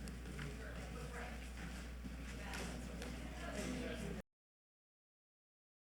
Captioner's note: attendees chattering